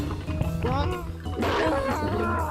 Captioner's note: whimpers